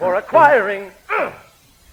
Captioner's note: grunts